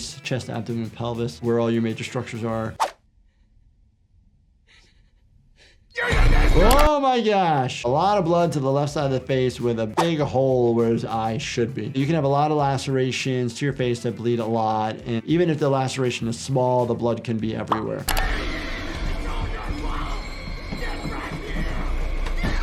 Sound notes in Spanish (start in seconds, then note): 5.9 persona gritando